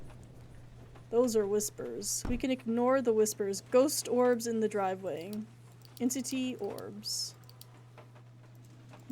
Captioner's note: thud